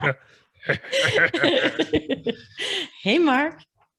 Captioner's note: presenters laughing